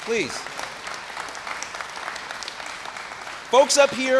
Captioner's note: applause